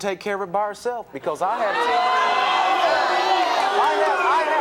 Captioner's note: audience jeering